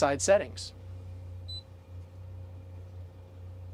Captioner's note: beep